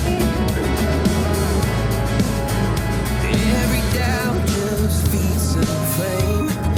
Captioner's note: haha